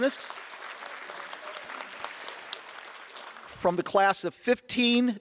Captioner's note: audience applause